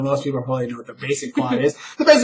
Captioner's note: giggles